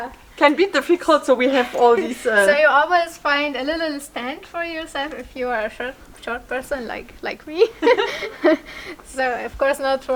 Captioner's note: laughter